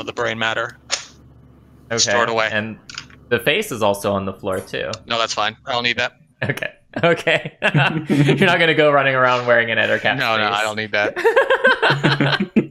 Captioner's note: laughter